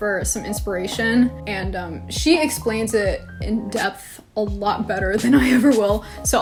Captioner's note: laughs